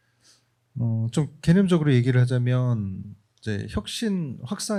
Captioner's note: speaking korean